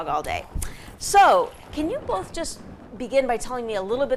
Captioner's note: dog shaking